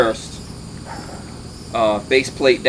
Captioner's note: dog barking